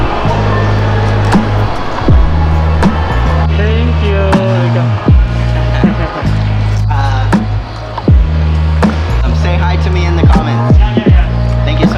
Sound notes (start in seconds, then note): 6.1 distant chatter